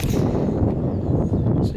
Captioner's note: wind blows